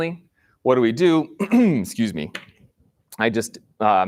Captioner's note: clears throat